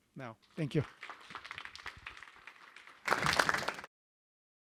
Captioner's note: applause